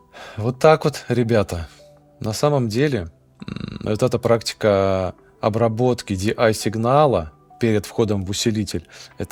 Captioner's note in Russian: фыркает